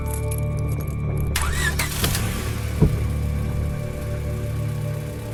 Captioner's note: engine revving